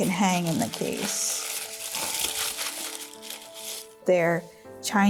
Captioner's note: wrapping rustling